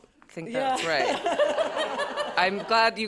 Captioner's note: laughter